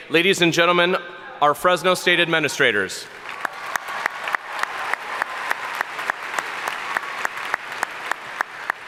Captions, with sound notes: Ladies and gentlemen, our Fresno State administrators. (audience cheering and applauding)